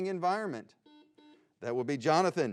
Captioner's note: buzzing